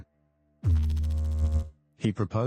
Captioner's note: electrical noise